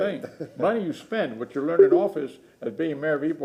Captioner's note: laughter